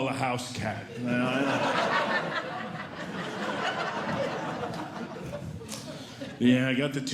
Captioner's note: audience Laughing